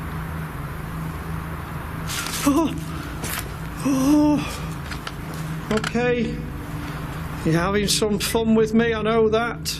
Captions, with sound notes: (gasp) (gasp) Okay, you're having some fun with me, I know that.